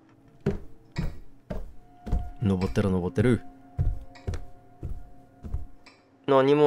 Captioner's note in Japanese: 足音：ﾄﾝ…ﾄﾝ…